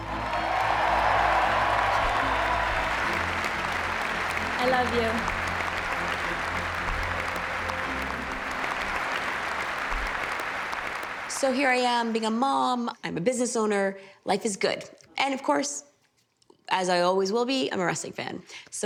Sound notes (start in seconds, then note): 0.2 people cheering and applauding; 7.5 people applauding